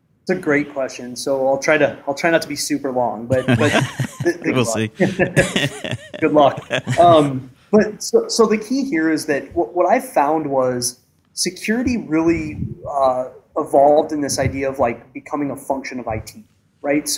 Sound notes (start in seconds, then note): 3.3 laughter; 3.3 laughs